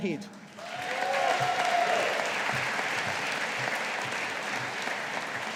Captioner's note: audience applauding